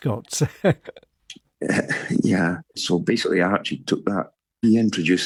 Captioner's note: laughs